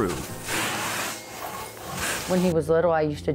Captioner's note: high-pressured air being sucked through tube